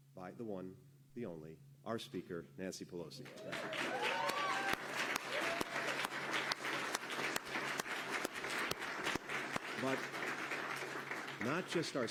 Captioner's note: applause